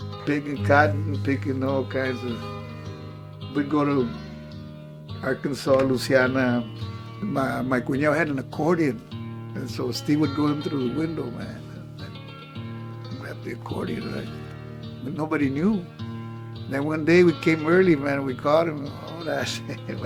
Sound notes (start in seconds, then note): 7.8 speaks in Spanish